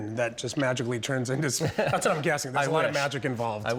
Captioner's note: laughing